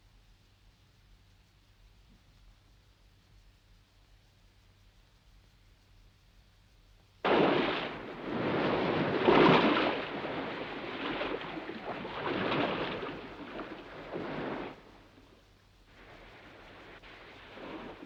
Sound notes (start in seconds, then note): 7.2 waves crashing